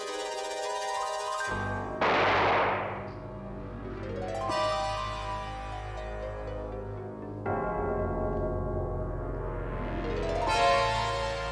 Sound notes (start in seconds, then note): 2.0 gun fires; 5.4 dramatic music